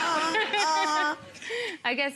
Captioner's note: people laughing